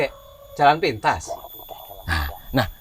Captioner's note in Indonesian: Sogek menggerutu